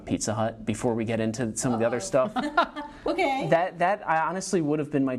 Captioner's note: laughing